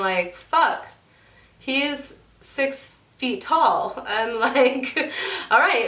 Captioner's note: laughs